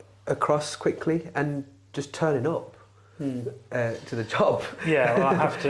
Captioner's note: laughs